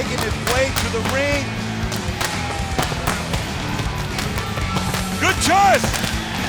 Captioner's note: fireworks popping